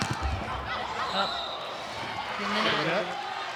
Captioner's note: ball thumping; whistle blowing; audience cheering